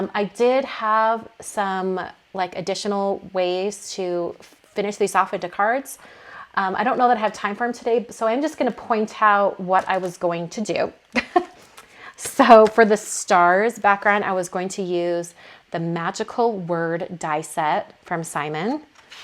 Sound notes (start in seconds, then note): 11.5 laughing